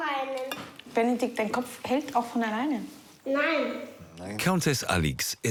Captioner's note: speaking foreign language